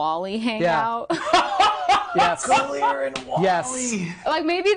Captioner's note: laughing